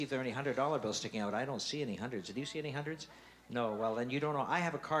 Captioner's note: none